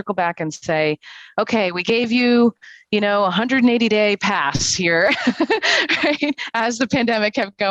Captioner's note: laughs